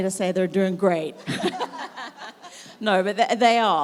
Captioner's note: everyone laughs